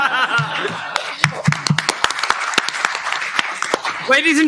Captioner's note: laughter, applause